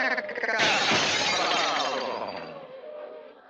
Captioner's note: glass shattering